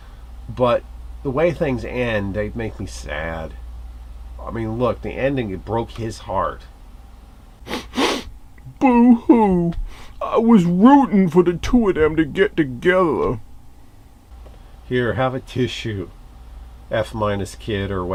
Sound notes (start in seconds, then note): 7.6 sniffles